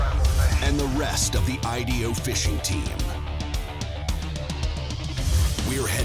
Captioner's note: voiceover